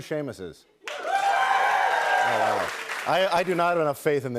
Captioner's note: cheers and applause